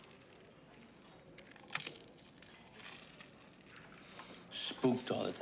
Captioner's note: crunch